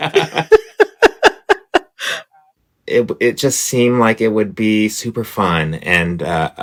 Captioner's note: laughter